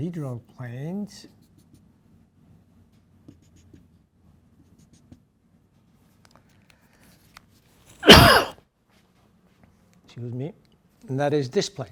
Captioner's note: cough